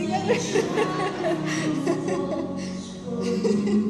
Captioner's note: laughter